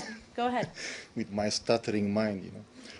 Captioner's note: laughter